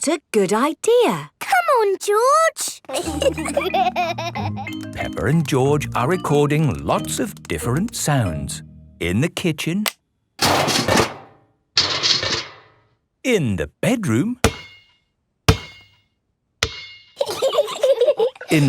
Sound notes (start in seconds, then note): 2.9 laughter; 10.4 banging; 14.4 banging; 17.2 giggling